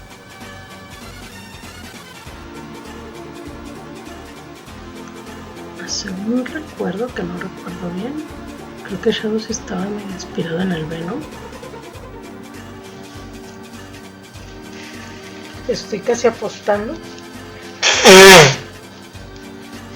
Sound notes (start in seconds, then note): 17.8 more deinonychus sounds